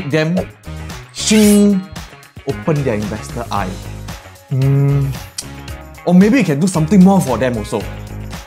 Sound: shing

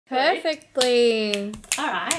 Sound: fingers snapping

